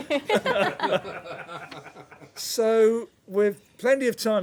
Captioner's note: laughter